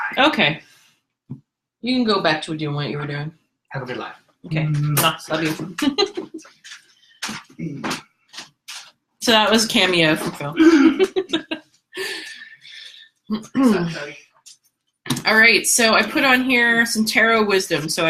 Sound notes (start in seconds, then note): 4.2 kisses loudly; 5.7 giggles; 10.4 laughs